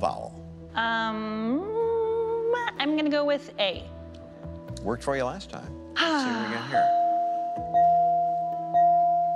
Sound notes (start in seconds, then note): 6.0 sighs